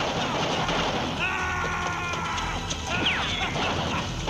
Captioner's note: gun firing